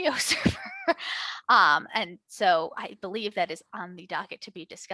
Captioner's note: chuckles